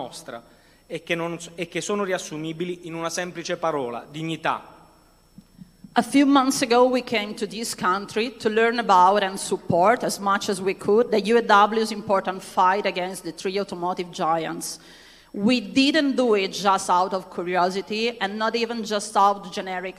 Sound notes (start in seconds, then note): 0.9 speaking non-english language